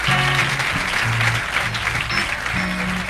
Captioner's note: clapping